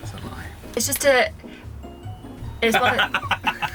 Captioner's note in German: stolpert über Worte; lacht